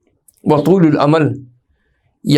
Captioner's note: Arabic